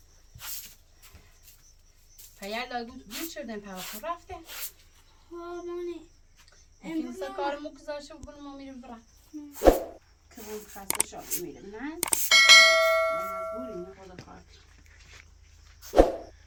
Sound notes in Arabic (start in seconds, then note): 12.0 جرس